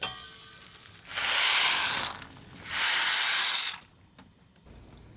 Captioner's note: pasta splashing